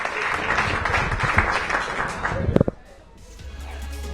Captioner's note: applause